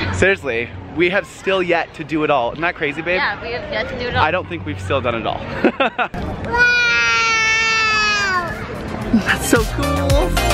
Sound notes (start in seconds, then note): 5.5 laughs; 6.4 yells